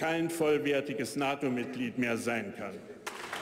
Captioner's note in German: Beifall bei der AfD